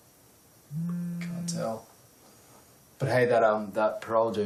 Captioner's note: cell phone vibrating